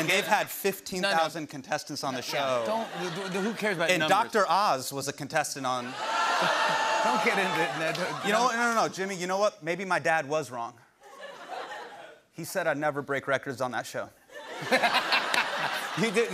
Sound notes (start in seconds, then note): 5.8 audience ohhs; 14.3 laughter